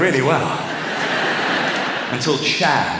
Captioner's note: laughter